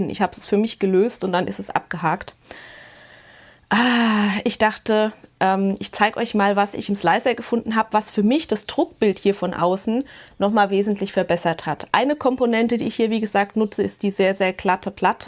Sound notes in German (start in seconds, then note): 2.4 japst; 3.7 seufzt